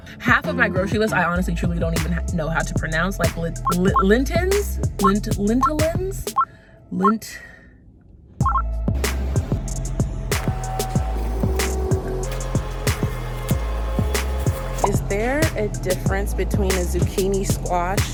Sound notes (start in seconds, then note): 7.0 sigh; 9.1 soft hip hop music